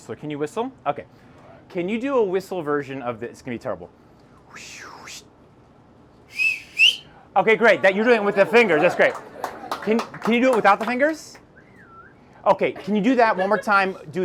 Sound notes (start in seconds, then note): 4.4 a terrible whistle that sounds like a roller coaster; 6.3 a loud whistle that sounds like a roller coaster; 9.4 audience applause; 11.5 a moderate whistle that sounds like a roller coaster